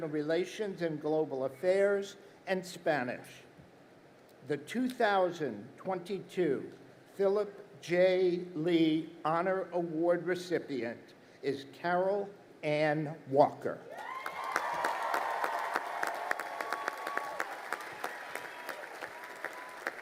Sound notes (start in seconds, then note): 14.0 crowd applauding